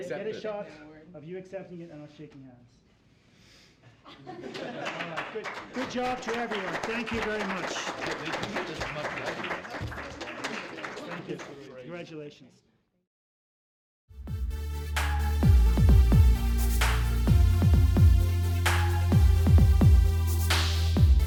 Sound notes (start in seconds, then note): 3.9 laughter; 8.3 applause; 14.2 smooth electronica music